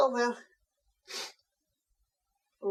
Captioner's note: sniffs